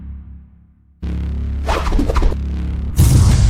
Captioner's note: twirling sound